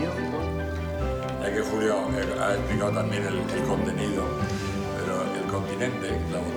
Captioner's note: speaking foreign language